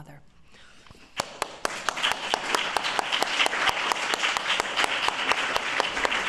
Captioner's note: applause